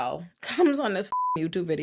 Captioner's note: beep